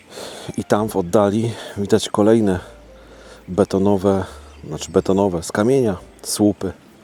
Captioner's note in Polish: parsknięcie